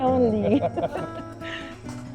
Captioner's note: laughs